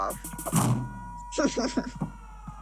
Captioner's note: cute giggling